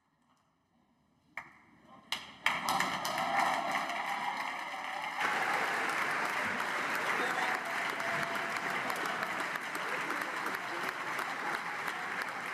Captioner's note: applause